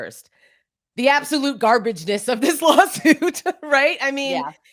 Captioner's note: laughs